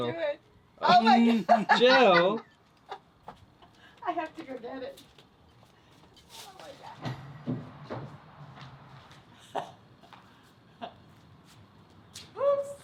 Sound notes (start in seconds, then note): 0.9 laughing; 10.3 giggles